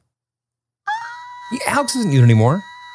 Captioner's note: shouts